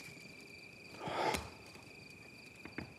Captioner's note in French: Soupir